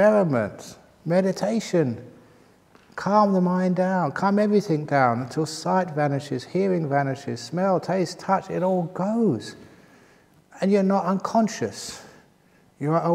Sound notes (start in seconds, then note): none